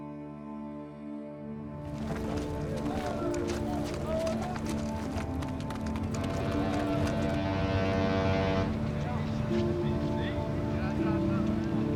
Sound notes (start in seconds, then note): 5.1 ship whistle blows